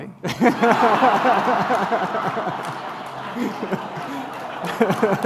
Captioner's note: laughter